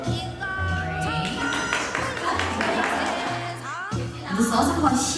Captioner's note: group applauding